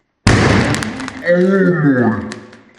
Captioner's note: vessel bangs